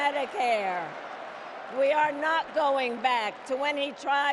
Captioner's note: cheers and Applause